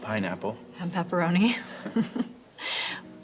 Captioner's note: both chuckle